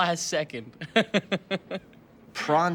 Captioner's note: laughs